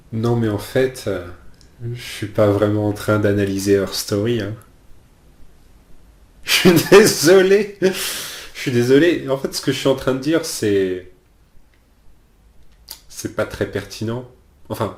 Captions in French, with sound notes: Non mais en fait, je ne suis pas vraiment en train d'analyser Her Story... Je suis désolé! *rires* Je suis désolé, en fait ce que je suis en train de dire, c'est... c'est pas très pertinent.